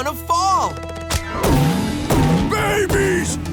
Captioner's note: thumping